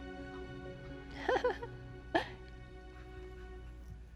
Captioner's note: laughs